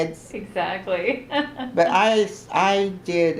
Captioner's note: laughs